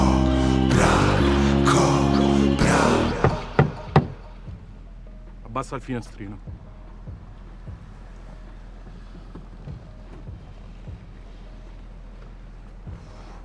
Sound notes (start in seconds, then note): 3.1 knocking; 11.2 window rolls down